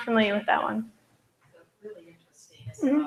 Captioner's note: off microphone